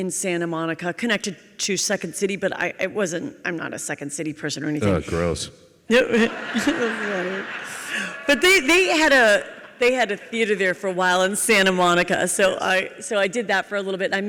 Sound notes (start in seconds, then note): 5.9 audience laughs